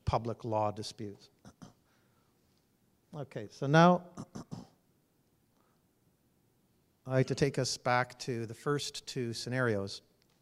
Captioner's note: cough